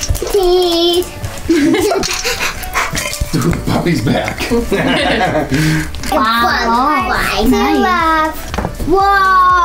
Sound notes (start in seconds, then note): 2.2 heavy breathing; 4.4 woman and dad laugh